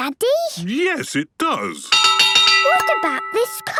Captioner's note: clanging